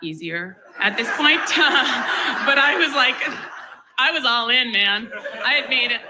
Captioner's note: laughs